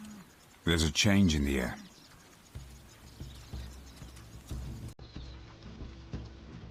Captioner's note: birds chirping; dramatic music